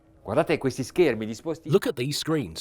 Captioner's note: speaking in a foreign language